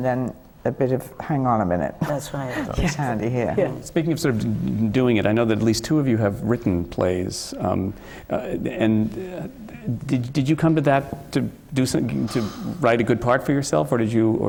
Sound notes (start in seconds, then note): 2.0 laughs